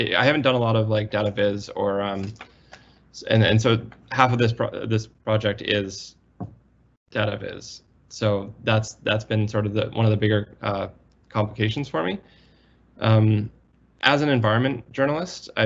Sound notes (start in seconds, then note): none